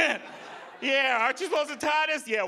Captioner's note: audience laughing